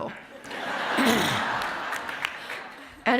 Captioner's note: audience laughs